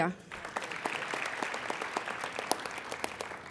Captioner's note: applauding